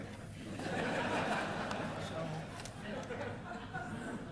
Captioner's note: audience laughing